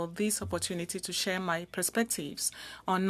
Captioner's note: speaking french